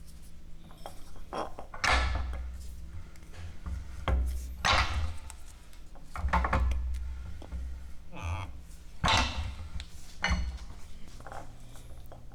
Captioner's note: sound of Arbor Press and cork